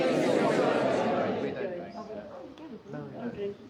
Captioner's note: crowd chattering